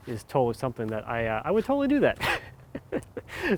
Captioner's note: laughs